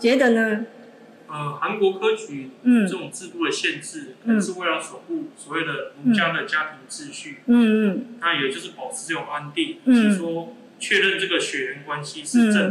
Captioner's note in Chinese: 朗讀